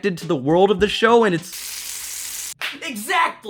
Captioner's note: delicious, sizzling bacon; clap